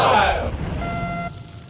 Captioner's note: buzzer